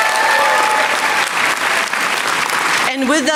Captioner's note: applause